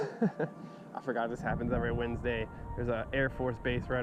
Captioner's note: laughter